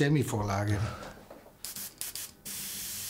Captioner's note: gentle spray